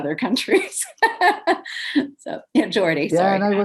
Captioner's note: laughs